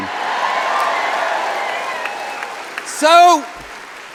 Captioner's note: applause